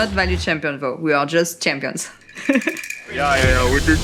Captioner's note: laughs